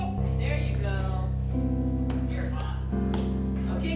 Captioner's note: female voice